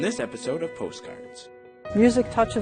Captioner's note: voiceover